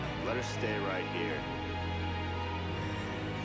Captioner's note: weeping